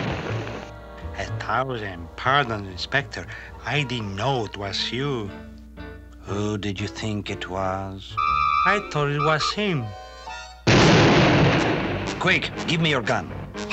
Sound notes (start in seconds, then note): 10.6 gun fires